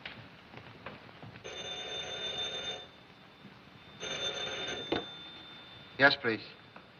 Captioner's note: phone Rings